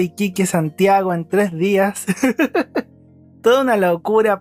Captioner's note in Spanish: risas